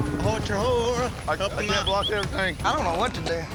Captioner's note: overlapping chatter